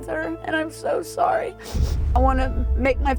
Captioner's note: sniffles